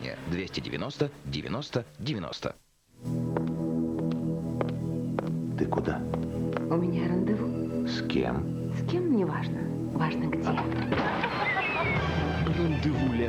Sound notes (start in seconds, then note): 3.0 calm music; 3.9 click of heels; 10.4 laughter